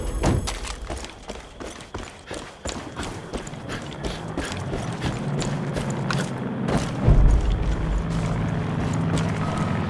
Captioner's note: engine revving